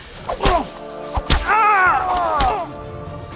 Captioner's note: screams